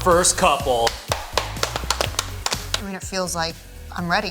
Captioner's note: everyone applauding